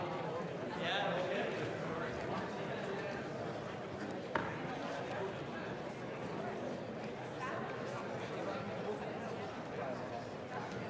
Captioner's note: chatter